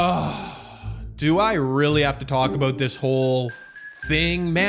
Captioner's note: sigh